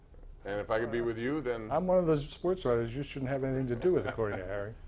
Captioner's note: laughter